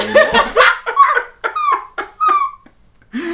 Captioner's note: laugh